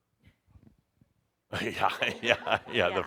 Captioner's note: some laughter